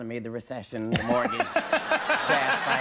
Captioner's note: all laughing